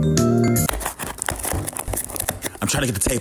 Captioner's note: gentle music; box scratching